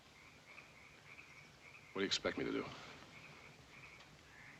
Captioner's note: quietly